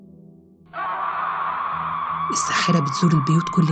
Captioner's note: witch screaming